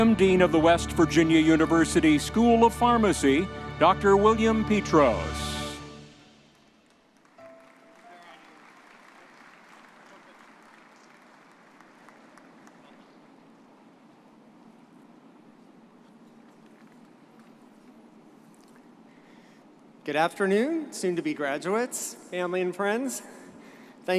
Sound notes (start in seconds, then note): 6.4 audience applauding